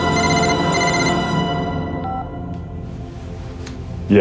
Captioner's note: phone ringing